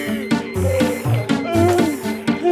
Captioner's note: Mr. Froom groans; Benderfax gasps; Mr. Froom groans; Benderfax gasps